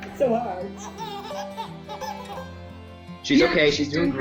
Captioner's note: baby laughing